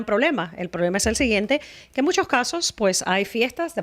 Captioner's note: Hablando ingl\s